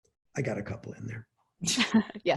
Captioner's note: laughing